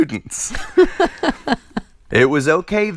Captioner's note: laughter